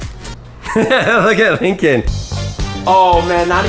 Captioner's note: laughing